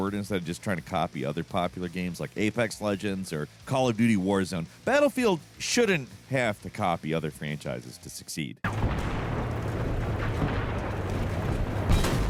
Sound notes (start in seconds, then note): 8.7 guns firing